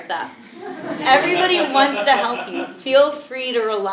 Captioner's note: laugh